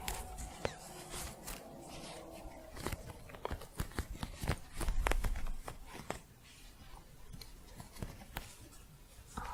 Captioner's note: scratching